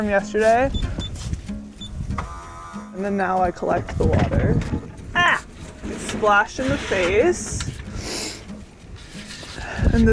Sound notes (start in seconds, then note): 2.2 machine beeping and buzzing; 7.9 sniffs; 8.0 lighthearted music